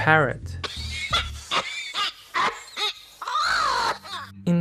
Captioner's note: parrot noises